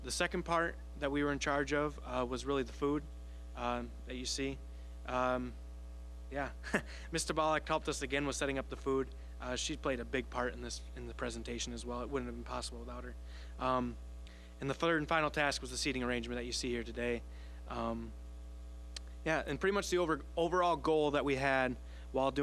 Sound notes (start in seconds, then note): 6.5 chuckling